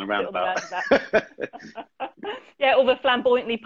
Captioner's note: laughs